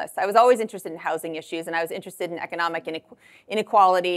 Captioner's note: none